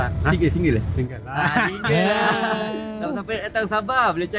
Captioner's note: laugh